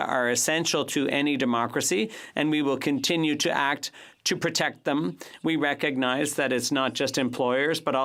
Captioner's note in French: voix de l'interprète